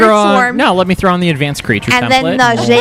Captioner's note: laughter